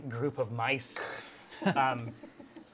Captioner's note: laughter